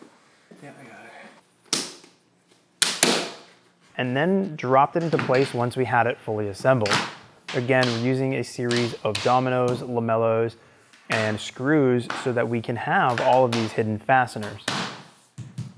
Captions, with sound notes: (doors snapping) And then drop it into place, once we had it fully assembled. Again using a series of dominos lamellos and screws, so that we can have all of these hidden fasteners.